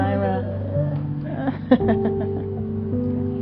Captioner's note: laughter